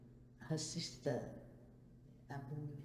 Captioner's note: speaks Cantonese to Joe